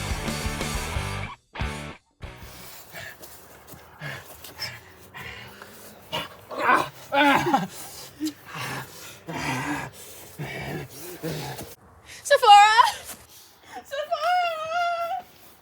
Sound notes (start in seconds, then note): 3.7 heavy breathing; 9.1 spooky growling